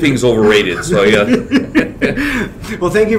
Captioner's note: laughter